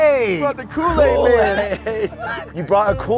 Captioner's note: laughs